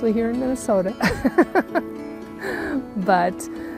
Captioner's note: laughs